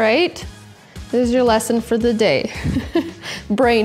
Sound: laughing

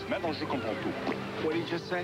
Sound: smacking noise at end

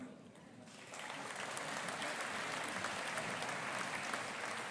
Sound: audience applauding

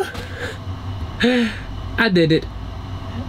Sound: sighs

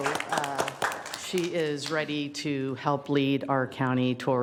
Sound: applause

